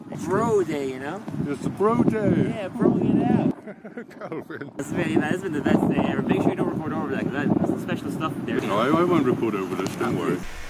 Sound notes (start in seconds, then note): 3.5 laughter